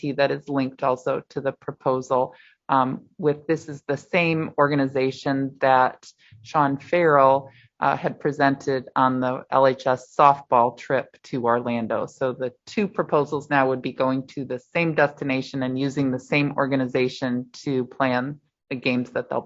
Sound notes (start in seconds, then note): none